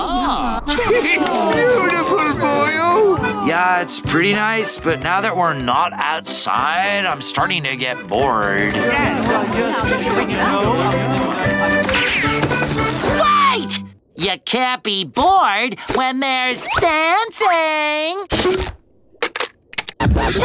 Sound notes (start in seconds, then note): 8.3 chattering